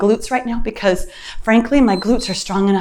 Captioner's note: timer beeps